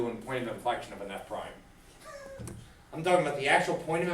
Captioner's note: laughs